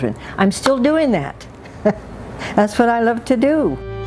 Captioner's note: chuckles